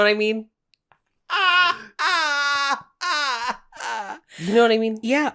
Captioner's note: laughing